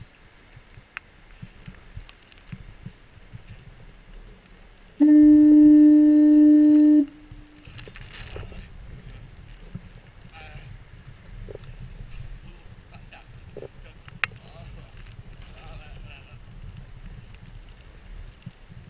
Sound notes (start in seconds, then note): 5.0 foghorn